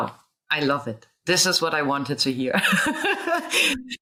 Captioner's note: laughs